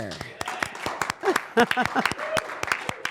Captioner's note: applause